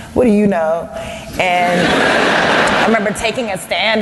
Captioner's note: laughter